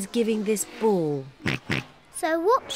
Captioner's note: oinks